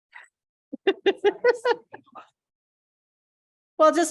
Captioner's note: laughter